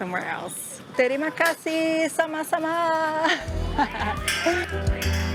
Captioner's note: in Indonesian